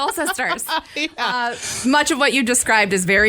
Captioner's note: laughs